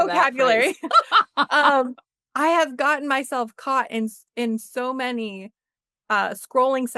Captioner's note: laughter